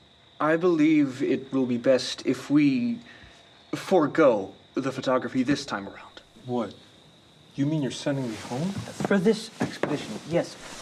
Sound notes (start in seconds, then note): none